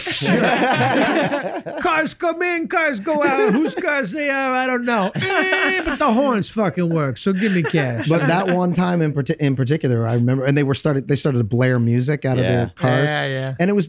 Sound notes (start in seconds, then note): 0.0 group chuckles; 5.3 Charlie imitates horn beep